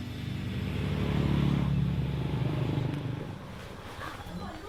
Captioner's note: motorbike roars